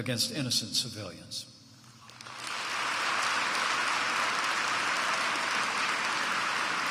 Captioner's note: applause